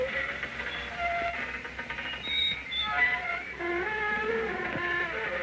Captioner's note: metal squeaking; door creaking